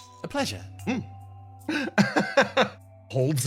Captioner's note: laugh